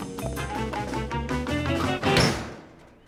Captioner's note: playful dramatic music; door clanging